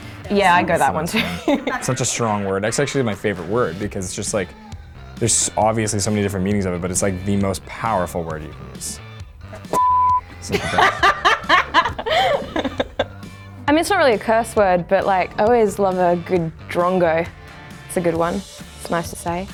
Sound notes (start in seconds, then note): 9.6 beep; 10.4 laughing